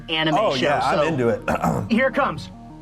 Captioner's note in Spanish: sonido de la garganta